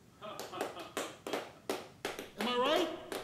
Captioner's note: crowd clapping